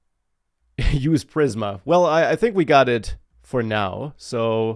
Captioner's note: laughs